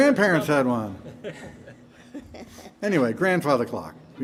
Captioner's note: band members chuckling